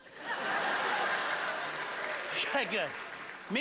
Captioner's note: laughter